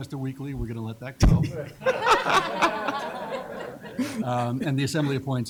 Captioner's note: laughter